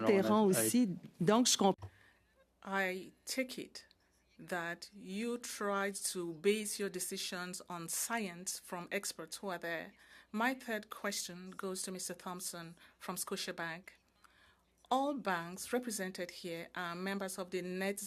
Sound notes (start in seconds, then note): 3.9 speaking French